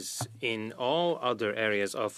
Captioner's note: speaking French